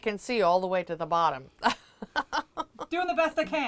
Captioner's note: chuckling